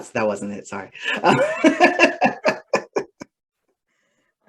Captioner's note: laughter